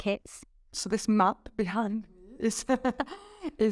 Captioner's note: chuckling